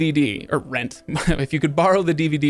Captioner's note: chuckles